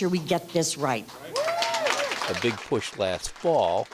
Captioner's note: crowd cheering